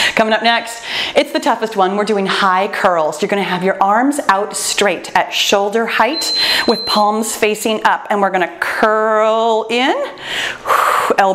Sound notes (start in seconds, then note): 6.0 timer beeps; 10.2 exhales